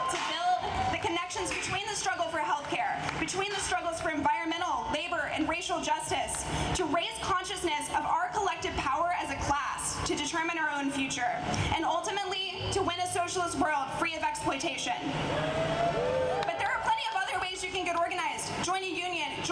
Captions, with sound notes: to build the connections between the struggle for healthcare, between the struggles for environmental, labor, and racial justice, to raise consciousness of our collective power as a class to determine our own future, and ultimately to win a socialist world free of exploitation. [Audience cheering] But there are plenty of other ways you can get organized.